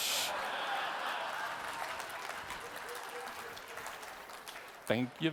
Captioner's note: audience laughing